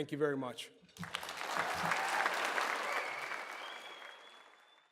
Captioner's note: audience applause